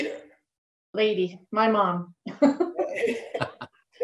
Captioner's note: laughing